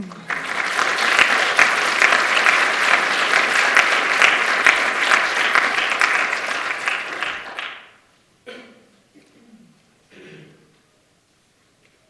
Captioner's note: applause